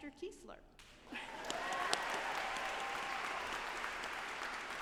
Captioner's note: audience applauding